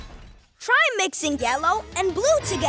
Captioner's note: none